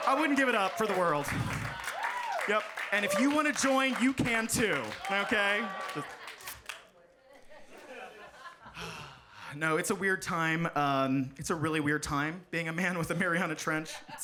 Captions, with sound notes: I wouldn't give it up for the world. Yep, and if you wanna join, you can, too, okay? (audience laughing) No, it's a weird time. It's a really weird time being a man with a Mariana Trench.